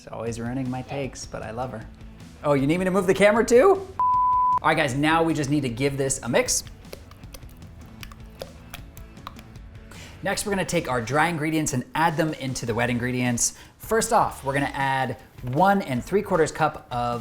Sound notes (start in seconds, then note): 4.0 beep